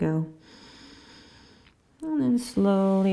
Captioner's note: inhaling